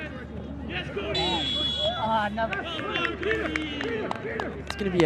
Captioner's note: whistle blows